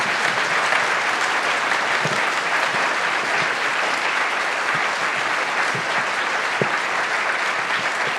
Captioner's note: announcement in german